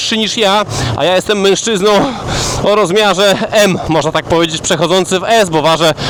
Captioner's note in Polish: śmiech